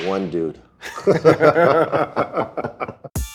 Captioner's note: laughs